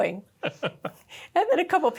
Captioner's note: laugh